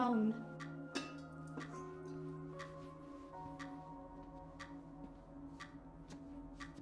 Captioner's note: gentle melodic music; clock ticking